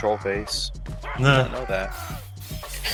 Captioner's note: chuckles